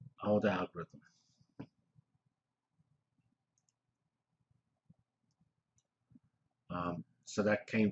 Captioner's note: pause